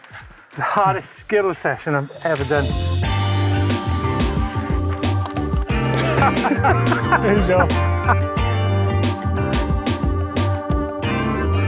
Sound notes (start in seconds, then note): 5.9 laughter